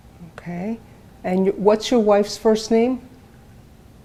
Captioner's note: none